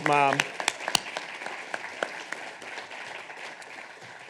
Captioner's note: audience applauding